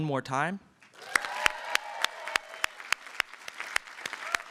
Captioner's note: applause and cheering